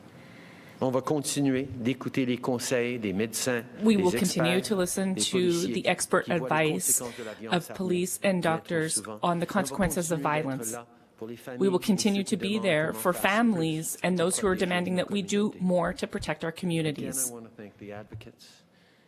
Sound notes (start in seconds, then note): 5.7 speaking French